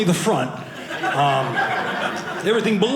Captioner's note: audience laughing